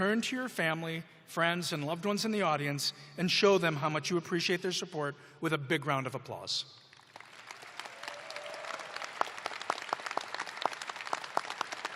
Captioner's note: applause